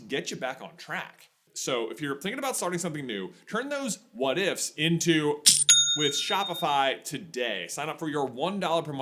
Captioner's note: cha-ching!